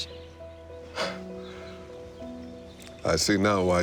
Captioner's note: chuckles